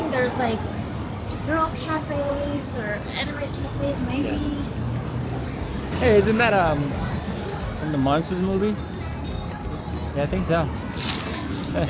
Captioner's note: laughter